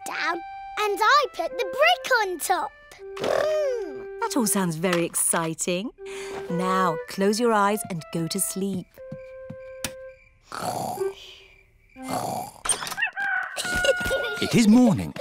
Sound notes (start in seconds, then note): 9.9 both snoring; 12.9 rooster crowing